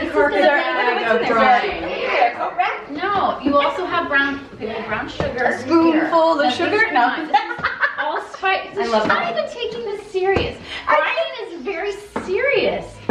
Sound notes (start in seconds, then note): 7.2 laughs